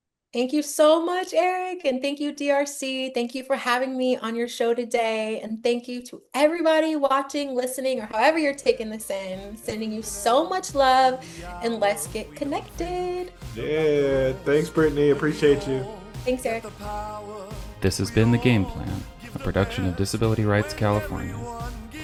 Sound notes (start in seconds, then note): 8.8 triumphant music fades in; 17.7 voiceover